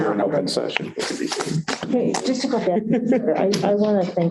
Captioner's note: laughter